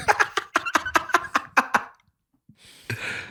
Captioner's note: laughter